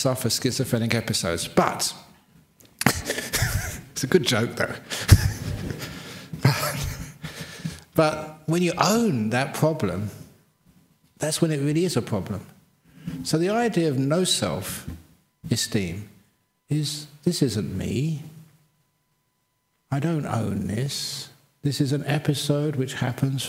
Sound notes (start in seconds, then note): 4.9 laughs